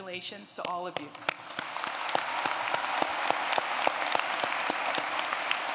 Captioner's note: applause